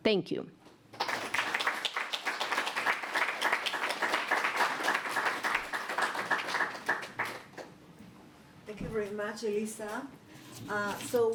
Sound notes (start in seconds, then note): 0.9 applause